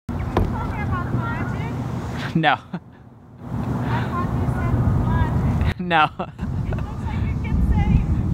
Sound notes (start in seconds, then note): 3.1 laughs